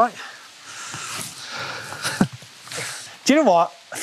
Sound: laughing

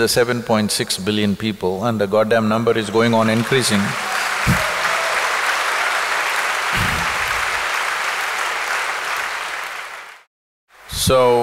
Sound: cheers/Applause

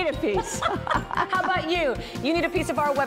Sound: laughter

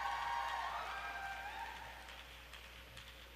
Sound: applause

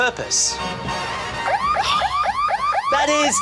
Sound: siren wails

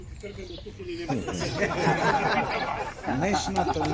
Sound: laughter

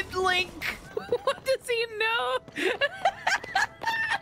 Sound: laughter

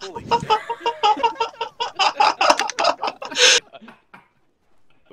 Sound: laughter

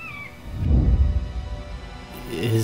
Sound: whoosh

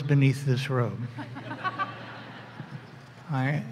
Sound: laughter

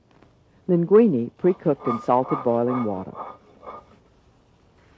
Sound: voiceover

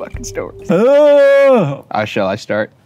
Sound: yelps

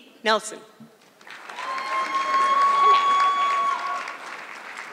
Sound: audience clapping

